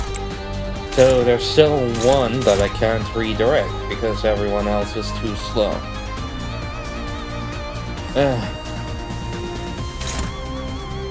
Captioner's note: sigh